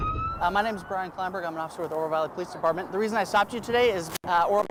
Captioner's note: siren